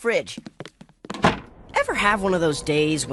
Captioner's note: door shutting